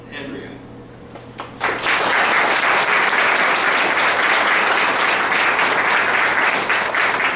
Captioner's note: applause